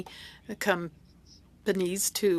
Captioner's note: speaking French